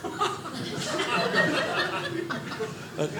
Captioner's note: audience laughing